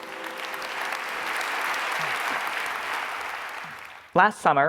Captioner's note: audience clapping